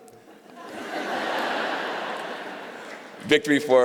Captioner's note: laughter